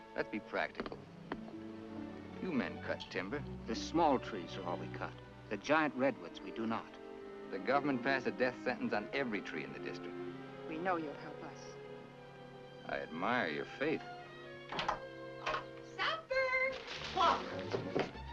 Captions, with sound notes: - Let's be practical. You men cut timber. - The small trees are all we cut, the giant redwoods we do not. - The government passed a death sentence on every tree in the district. - We know you'll help us. - I admire your faith. [door opens] - Supper! Walk.